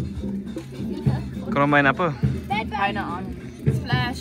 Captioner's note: speaking German